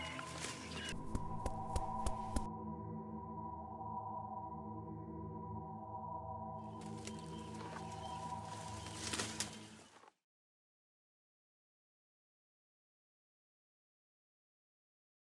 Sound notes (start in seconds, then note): 1.0 animal thumping; 6.6 birds chirping; 6.8 foliage rustling